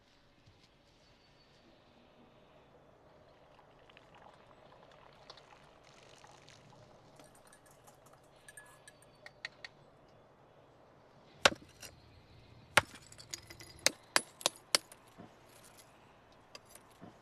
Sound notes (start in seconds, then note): 11.7 thumping